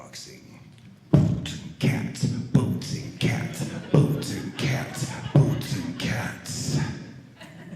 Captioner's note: beat boxing